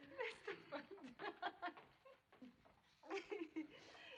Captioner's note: laughing